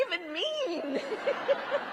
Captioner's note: laughter